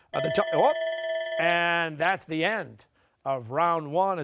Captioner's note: bell ringing